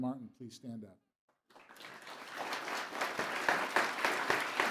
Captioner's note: applause